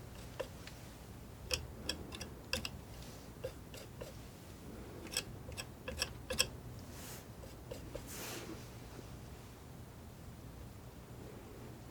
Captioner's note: scratching